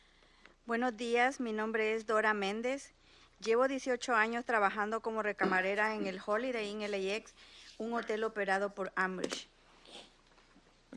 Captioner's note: speaking in Spanish